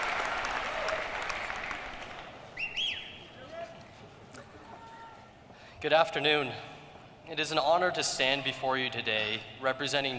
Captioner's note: cheers and applause